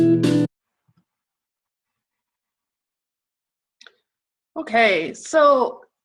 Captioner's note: silence